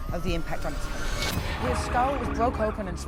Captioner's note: sirens blaring